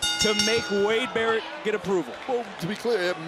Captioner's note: bell rings